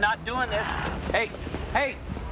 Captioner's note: Joe sighing